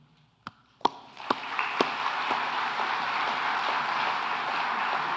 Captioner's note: audience applauds